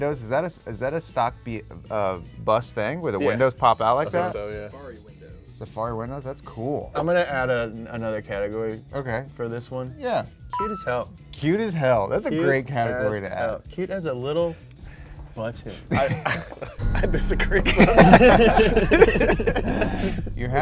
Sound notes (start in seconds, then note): 10.5 bell dings; 15.8 chuckles; 17.6 both chuckles; 19.2 all laughing